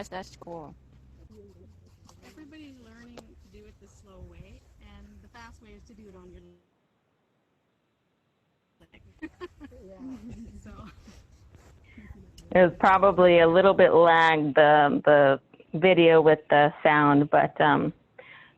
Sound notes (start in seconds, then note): 12.0 laughs